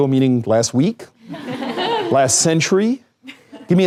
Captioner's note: laughter